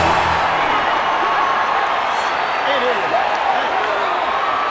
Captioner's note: dramatic music; crowd cheering